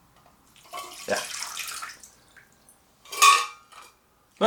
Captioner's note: water pouring